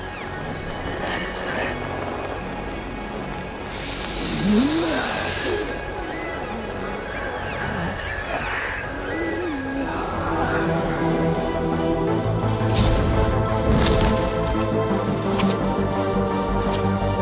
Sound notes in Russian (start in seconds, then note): 3.8 занюх; 6.8 сипение